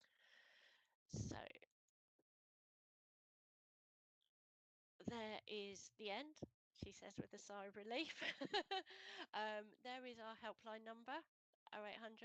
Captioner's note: laughs